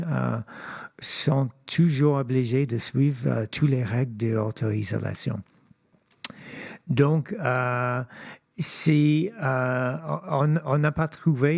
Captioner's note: speaking French